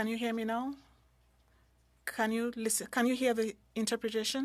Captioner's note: speaking French